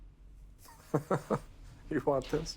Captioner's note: laughs